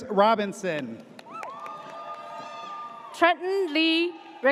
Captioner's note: audience cheers